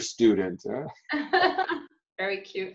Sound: laughing

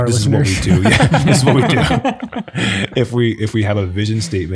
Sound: group laughing

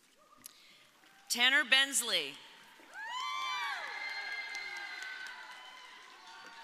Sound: audience applauding

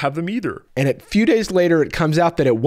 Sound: normal voice

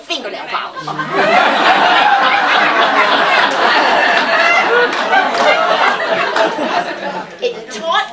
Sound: laughter

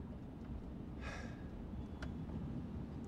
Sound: sighs

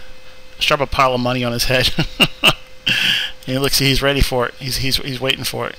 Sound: laughing

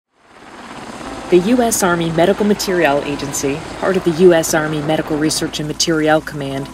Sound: helicopter sound

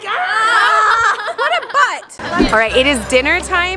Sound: laughing

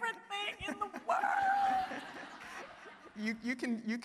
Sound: audience laughing

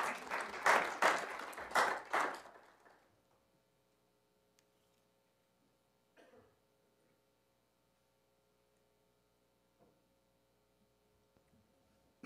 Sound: applause

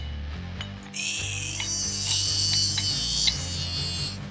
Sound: grunting

